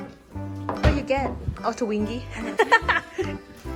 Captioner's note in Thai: หัวเราะ